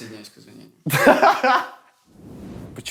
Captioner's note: laughs